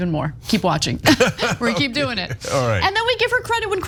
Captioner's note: laugh